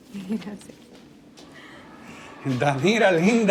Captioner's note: laughing; footsteps